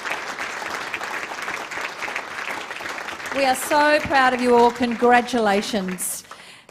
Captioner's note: applause